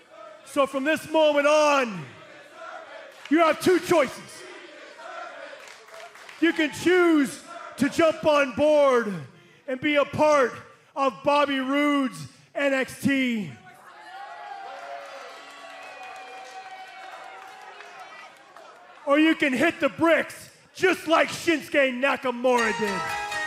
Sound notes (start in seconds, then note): 16.6 cheers and boos